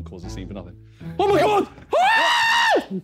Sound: screaming

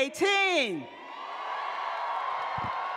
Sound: cheering

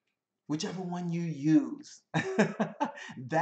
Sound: laughs

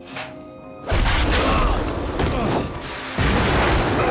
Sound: grunting

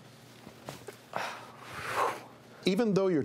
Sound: deep breathing

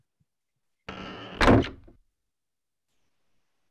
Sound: cabin door creaks

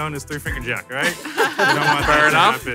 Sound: laughing

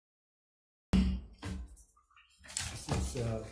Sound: gavel thudding

